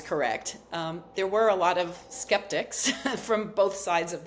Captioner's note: chuckles